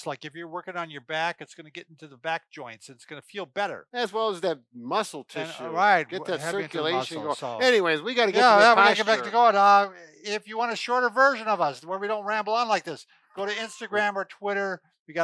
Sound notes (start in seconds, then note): 9.6 mumbles; 13.4 laughs